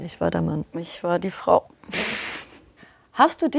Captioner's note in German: Lachen